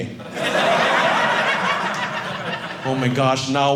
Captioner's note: audience laughing